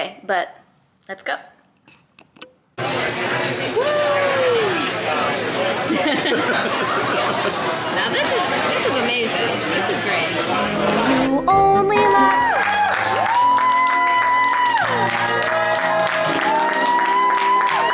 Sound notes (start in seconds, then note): 2.8 diners chatting; 5.8 agent laughing; 11.9 audience cheering; 12.0 audience applauding